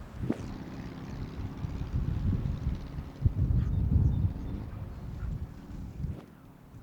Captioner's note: wind and tractor noise; birds chirping and sound of distant cars